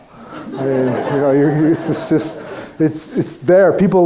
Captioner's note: crowd laughing